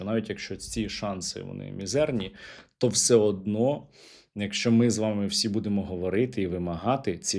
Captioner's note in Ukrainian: сопіння